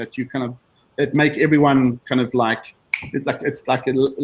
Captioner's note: snaps fingers